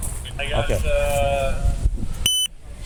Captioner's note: radio chatter